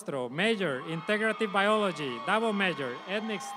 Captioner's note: audience applauds